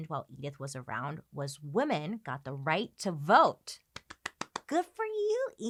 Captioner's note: claps